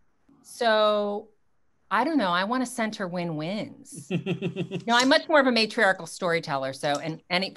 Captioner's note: laughs